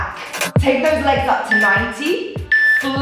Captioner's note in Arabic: يصدر صوت مؤقت